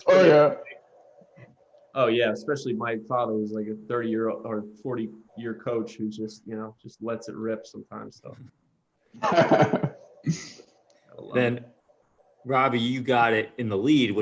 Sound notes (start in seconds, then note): 9.2 laughter